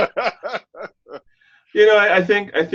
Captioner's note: laughing